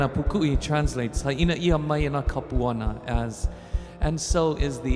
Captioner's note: speaking in Hawaiian